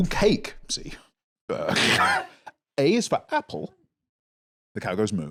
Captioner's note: laughs